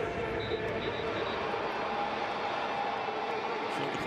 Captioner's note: whistle